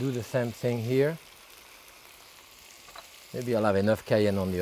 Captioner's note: pan sizzling